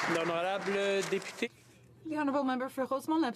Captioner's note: applause